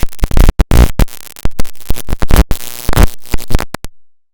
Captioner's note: electrical zapping